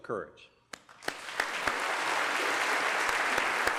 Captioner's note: applause